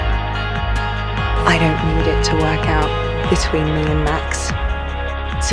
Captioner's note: voiceover